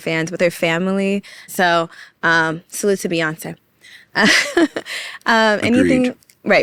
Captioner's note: laughs